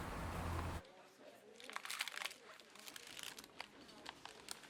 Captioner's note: soft chattering